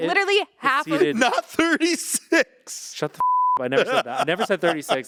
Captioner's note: beep